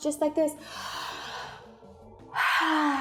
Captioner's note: inhales; exhales